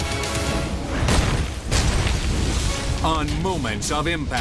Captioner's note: logo slams